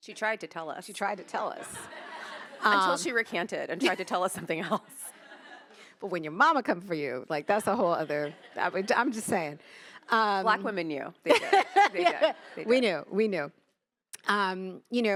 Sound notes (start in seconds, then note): 1.3 attendees laughing; 11.3 laughing